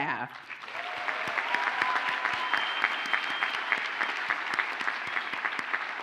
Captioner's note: audience cheers and applauds